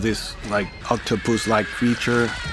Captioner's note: screaming